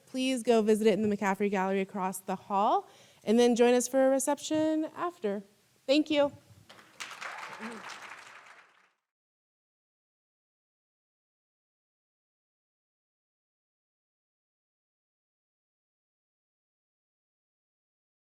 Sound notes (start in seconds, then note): 6.7 audience applauding; 6.9 audience cheering